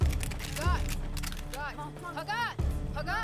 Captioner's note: guns cocking